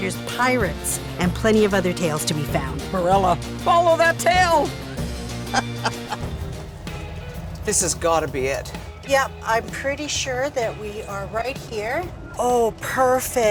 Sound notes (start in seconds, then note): 5.4 laughing